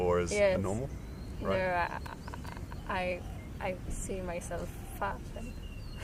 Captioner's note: laughs